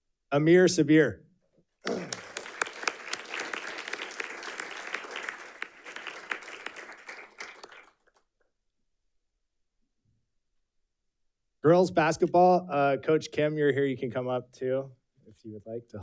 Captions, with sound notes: Amir Sabir. (audience clapping) Girls basketball, coach Kim, you're here. You can come up too if you would like